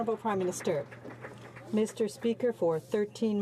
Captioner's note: some Applause